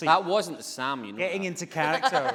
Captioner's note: laughing